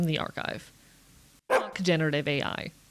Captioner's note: bark